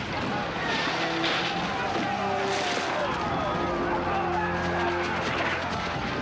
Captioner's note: guns fire; solemn music